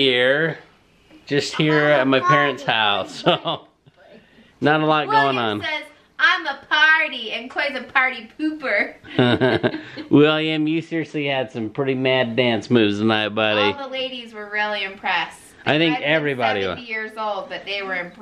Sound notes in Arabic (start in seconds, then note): 9.1 يضحك